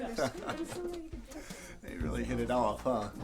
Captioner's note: chuckling